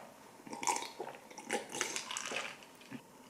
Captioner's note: gulp, gulp